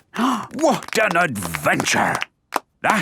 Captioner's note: applause